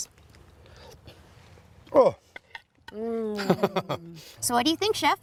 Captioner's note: laughs